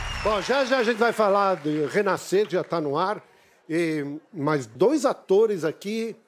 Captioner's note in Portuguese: aplausos